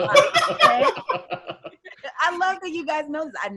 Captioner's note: loudly laughing